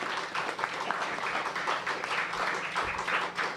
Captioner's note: applause